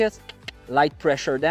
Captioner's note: clicks tongue